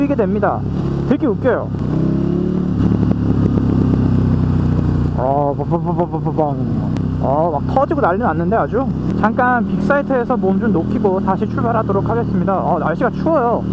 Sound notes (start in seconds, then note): 2.3 sound of Decel pop